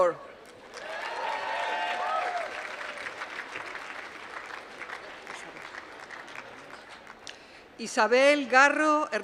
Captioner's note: applause